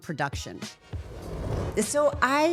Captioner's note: air whooshing